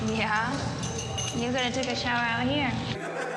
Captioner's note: laughing